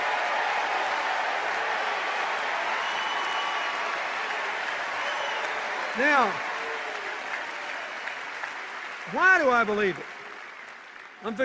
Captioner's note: cheers and applause